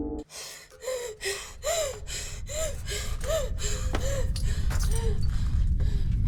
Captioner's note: Abby pants; faint rumble